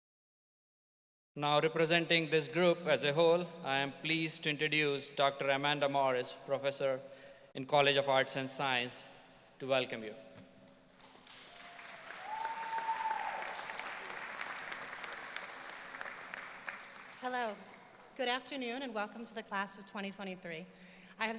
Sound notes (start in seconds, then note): 11.0 audience applauding and cheering